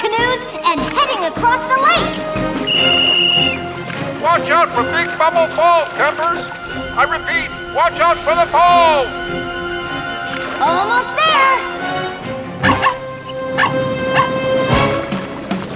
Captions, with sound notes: and heading across the lake! [blows whistle] Watch out for Big Bubble Falls, campers! I repeat, watch out for the falls! Almost there! [barking]